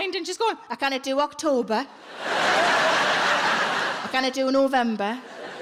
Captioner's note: audience laughing